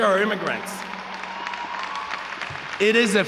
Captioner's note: audience cheering